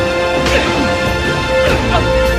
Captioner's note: grunting